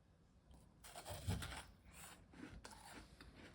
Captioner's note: chewing